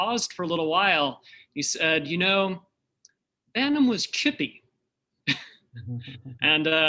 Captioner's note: chuckles